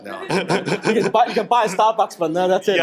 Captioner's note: man laughs